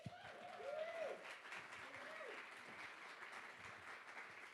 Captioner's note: audience applauds